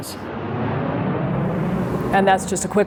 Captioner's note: jet engines roaring